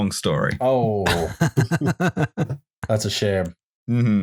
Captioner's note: laughs